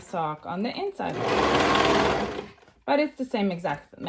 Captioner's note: machine whirring